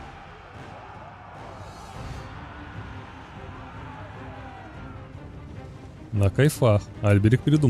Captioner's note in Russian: крик